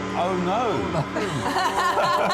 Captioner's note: laughter